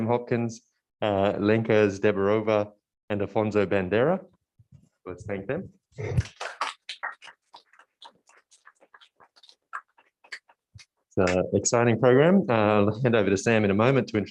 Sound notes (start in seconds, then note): 6.4 applause